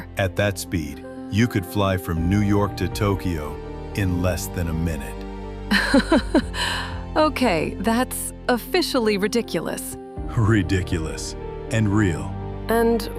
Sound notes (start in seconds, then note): 5.8 laughing, stunned